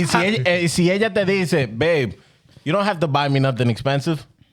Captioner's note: laughing